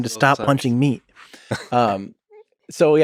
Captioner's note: Lex laughs